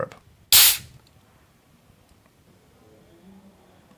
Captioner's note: can hissing